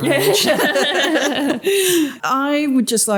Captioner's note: laughter